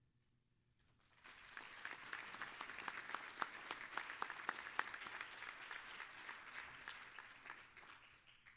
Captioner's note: applause